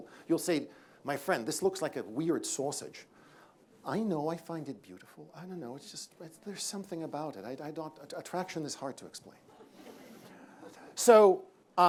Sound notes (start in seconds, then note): 9.5 laughter